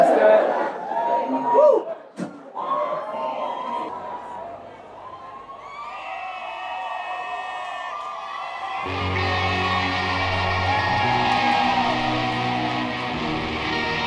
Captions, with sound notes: Let's do it. Woo. (crowd cheering) (guitar strumming)